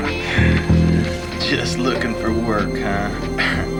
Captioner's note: chucklin